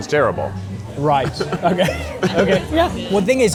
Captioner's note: both laughing